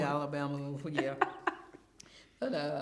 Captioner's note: laughs